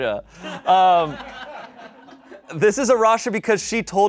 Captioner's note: laughs; audience laughing